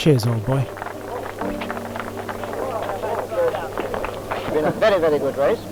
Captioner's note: crowd clapping